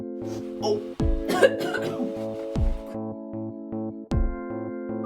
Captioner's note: coughing